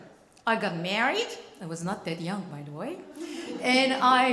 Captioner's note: laughing